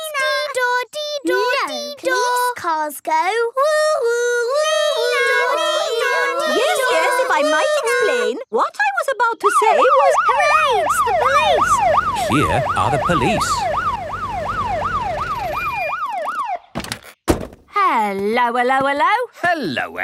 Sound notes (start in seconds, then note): 4.5 children imitating sirens; 10.4 siren wailing; 16.8 siren stops